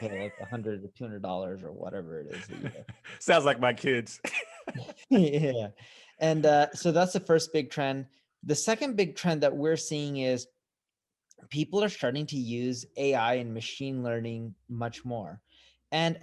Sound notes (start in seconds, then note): 2.3 laughs